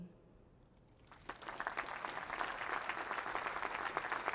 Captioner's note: applause